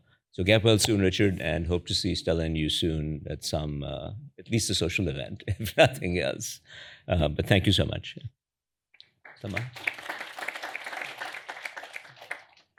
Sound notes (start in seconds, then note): 9.2 applause